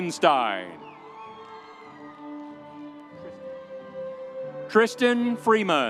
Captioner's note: audience cheering